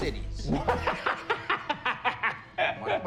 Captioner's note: laughs